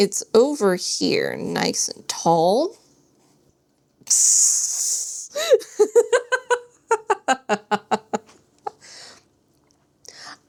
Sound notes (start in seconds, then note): 5.4 laughs